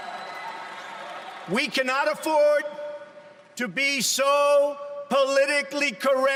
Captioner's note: applause